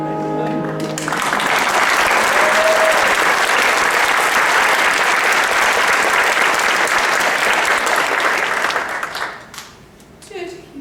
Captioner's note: applause